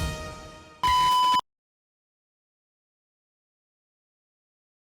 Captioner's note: television beeps